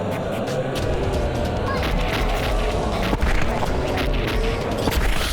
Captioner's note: tense music; zombies groaning